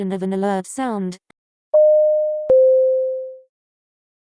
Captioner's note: alert sound plays - moderate pitch, 2 notes